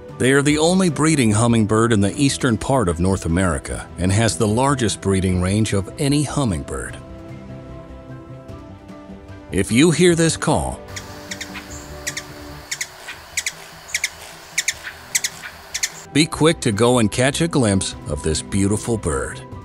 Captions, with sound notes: They are the only breeding hummingbird in the eastern part of North America and has the largest breeding range of any hummingbird. If you hear this call, [Ruby-throated hummingbird call] be quick to go and catch a glimpse of this beautiful bird.